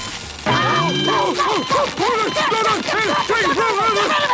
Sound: screaming

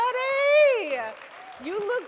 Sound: audience applauding

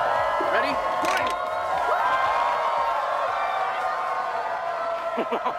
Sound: cheering; chuckles

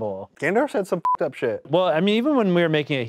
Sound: beep

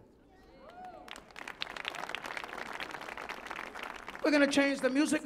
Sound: audience clapping

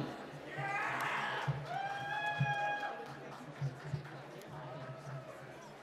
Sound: cheering and applause

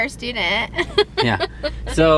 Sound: laughs

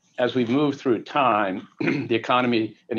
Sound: clears throat

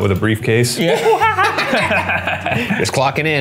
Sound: both laughing

